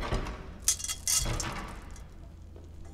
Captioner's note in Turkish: Kapı Kapanma Sesi; Kapı Açılma Sesi